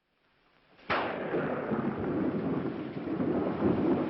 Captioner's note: thunder